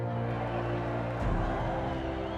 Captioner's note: crowd yelling